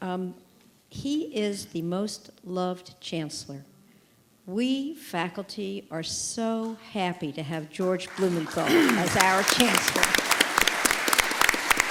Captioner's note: applause